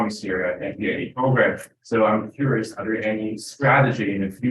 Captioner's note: speaks faintly